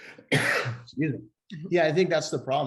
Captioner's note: coughs